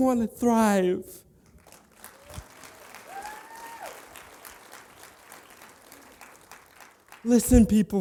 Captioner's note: applause